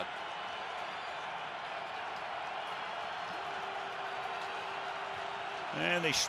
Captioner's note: cheers